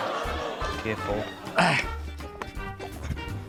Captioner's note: audience exclaims; grunts